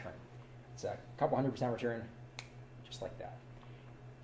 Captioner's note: snaps